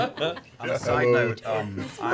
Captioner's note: laughter